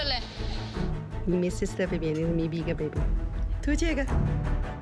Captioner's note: speaking foreign language; soft adventurous music